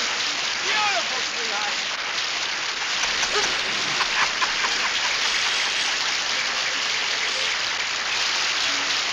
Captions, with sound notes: Beautiful, sweetheart. (laughs) (audience applauds)